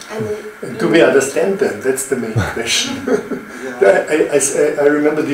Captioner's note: audience chuckles